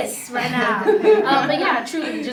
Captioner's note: laughs